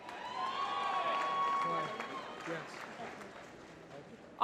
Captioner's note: applause